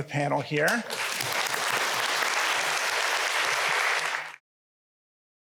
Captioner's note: applause